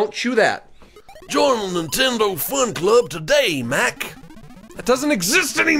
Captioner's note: gravelly voice; normal voice